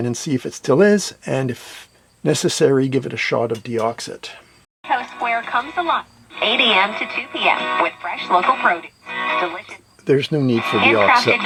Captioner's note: radio is playing